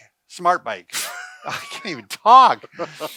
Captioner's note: laughs